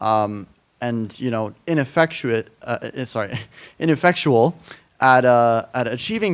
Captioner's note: chuckles